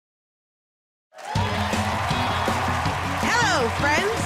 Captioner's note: cheers and applause